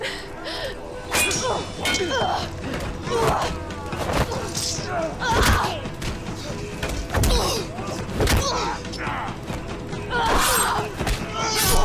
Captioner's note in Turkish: Dövüş Sesleri